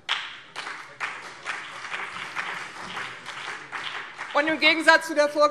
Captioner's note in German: Beifall BÜNDNIS 90/DIE GRÜNEN und vereinzelt CDU